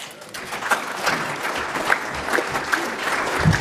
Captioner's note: applause